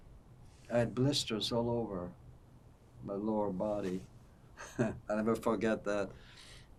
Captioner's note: laughing